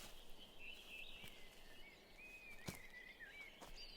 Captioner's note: birds chirping